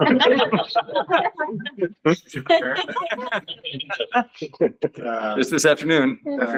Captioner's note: laughter